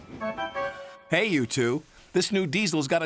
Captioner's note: whistle blows